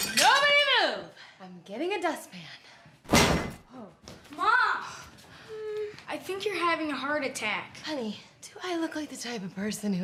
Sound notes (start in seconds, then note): 0.0 plate crashing; 3.1 bangs